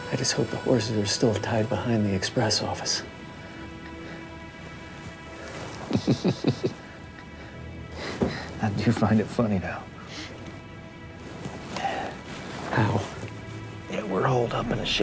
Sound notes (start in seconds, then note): 5.6 chuckling